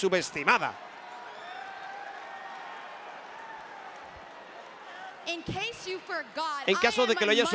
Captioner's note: applause